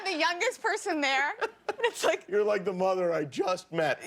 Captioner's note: laughter